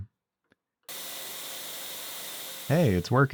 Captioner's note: machinery whirring